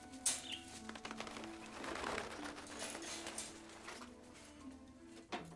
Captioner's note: wings fluttering